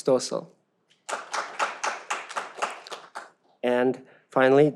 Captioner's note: audience applauds